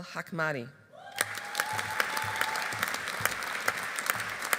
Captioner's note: audience applauding